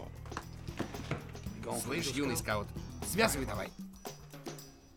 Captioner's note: none